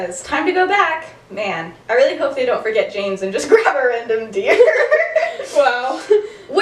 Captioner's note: laughter